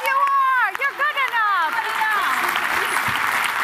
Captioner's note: applause